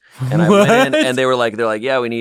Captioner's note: laughs